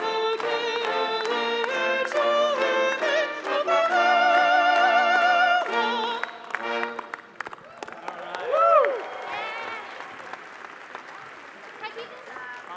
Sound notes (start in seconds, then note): 8.0 audience applauding